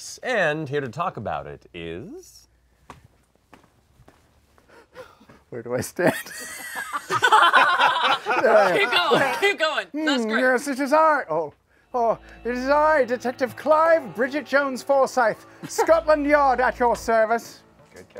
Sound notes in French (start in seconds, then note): 6.0 rires; 10.8 accent britannique